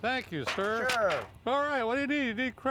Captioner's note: pans hitting the table